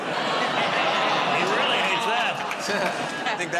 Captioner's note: audience "Aw"s